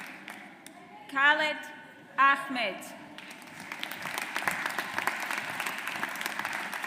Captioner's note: audience applauds